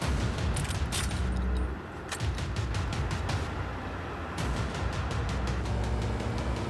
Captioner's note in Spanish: ruido de los vehículos